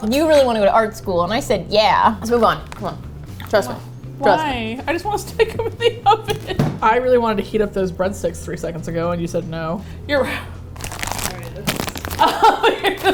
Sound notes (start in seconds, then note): 4.3 through faux sobs; 12.1 laughs